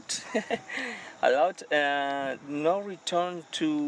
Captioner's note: chuckles